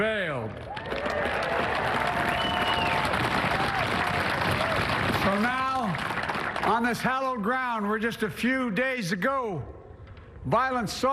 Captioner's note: applause